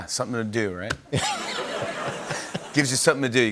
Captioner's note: laughter